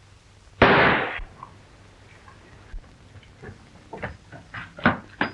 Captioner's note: gun shot